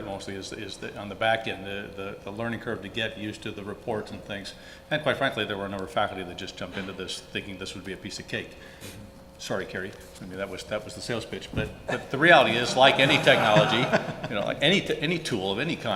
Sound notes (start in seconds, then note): 12.5 laughter